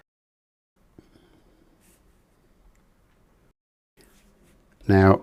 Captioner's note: silence